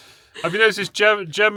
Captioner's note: laughing